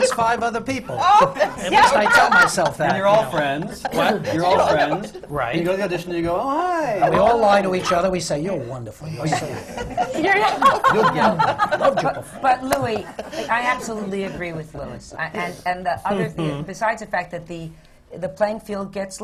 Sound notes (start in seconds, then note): 4.2 laughs; 16.2 laughter